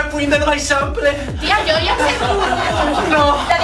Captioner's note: laughs